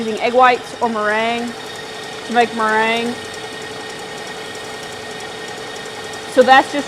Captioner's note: mixer whirring